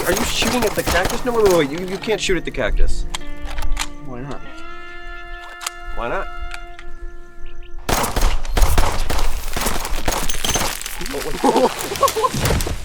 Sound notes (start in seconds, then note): 7.8 guns firing; 11.2 both laughing